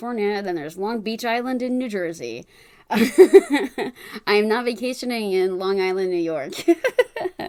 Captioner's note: laughs